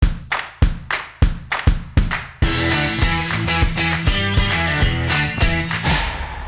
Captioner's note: bright percussive music; knife scraping